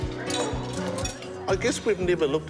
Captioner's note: whoosh!